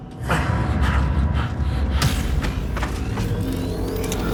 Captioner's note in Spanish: Respiración agitada